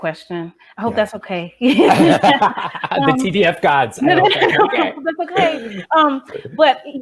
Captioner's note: laughs